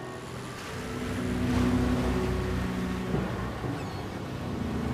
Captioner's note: waves splashing